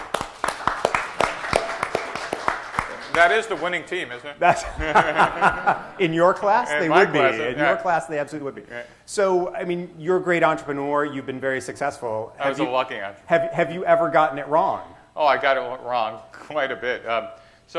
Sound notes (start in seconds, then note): 0.0 applause; 4.4 laughter